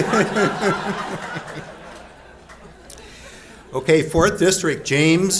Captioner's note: laughs